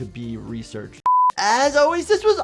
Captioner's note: beeps